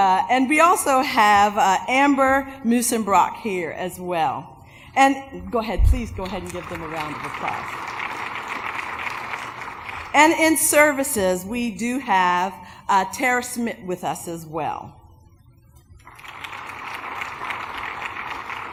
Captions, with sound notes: But, we also have Amber Musenbrock here, as well. Please go ahead and give them a round of applause. ( applause ) And in Services, we do have with us, as well. ( applause )